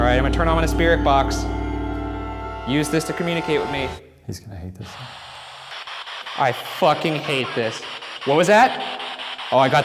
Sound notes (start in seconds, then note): 4.8 bursts of static; 7.6 distorted speech